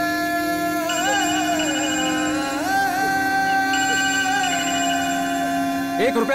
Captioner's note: Crying